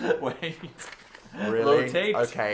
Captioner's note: laughing